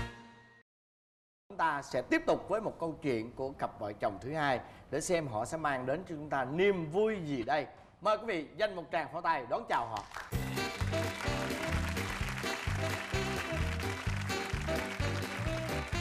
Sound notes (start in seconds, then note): 7.9 clap